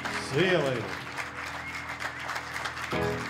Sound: cheers and applause

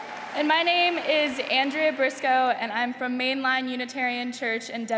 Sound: applause

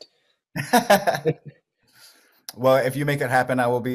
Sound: laughs

